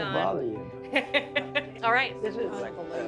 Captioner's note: laughs